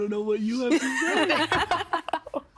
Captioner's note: all laughing